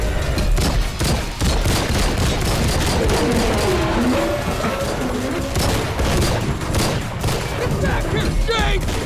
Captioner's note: gunshot